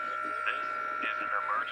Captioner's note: EAS Tone